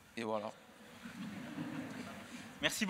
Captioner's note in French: Rires